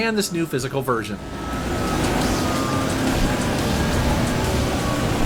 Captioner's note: game sounds